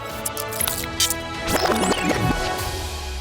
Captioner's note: tape rewinding